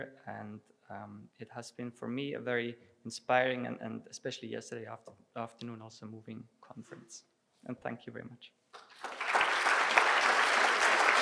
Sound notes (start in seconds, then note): 8.7 applause